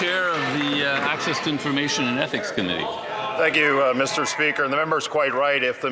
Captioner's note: some Applause